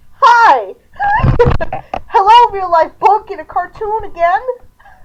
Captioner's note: laughing